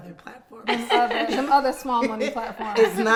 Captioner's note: laughing